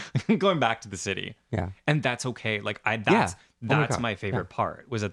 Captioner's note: laugh